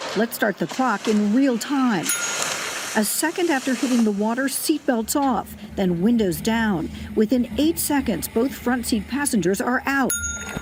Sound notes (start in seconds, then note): 2.0 bell dings; 10.0 bell dings